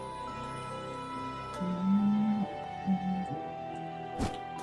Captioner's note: humming along